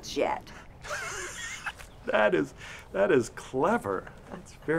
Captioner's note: laughs